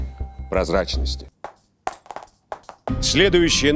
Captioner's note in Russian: звон монет